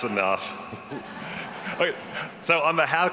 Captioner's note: all laughing